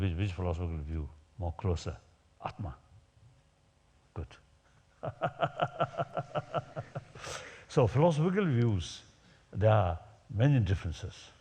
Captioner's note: laughs